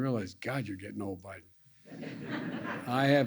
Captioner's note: laughter